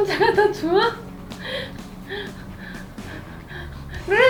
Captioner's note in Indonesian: tertawa